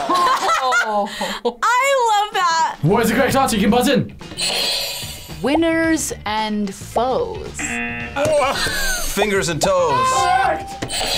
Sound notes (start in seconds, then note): 0.0 laughs; 4.4 buzzer rings; 7.6 buzzer; 7.6 buzzer rings; 10.6 buzzer rings